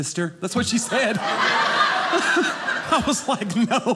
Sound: audience laughing

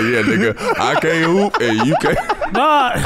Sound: laughing

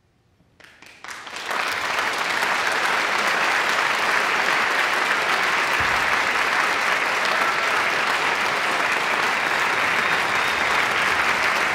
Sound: audience applause

